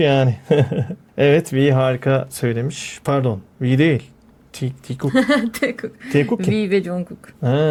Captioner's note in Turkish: kahkaha